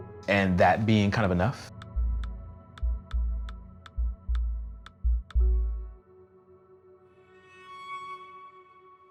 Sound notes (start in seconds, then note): 1.7 graphics clicking